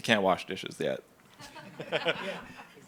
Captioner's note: everyone laughing